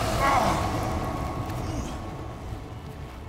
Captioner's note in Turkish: İnilti sesi